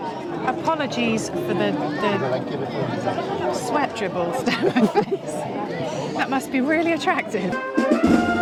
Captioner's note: laughter